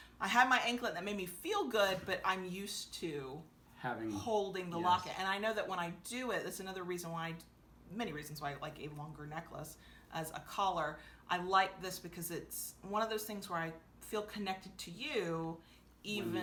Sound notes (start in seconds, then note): none